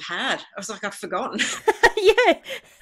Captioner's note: laughs